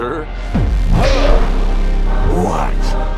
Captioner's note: Darth Convenience grunts